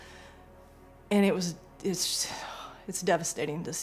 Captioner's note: inhales loudly; exhales loudly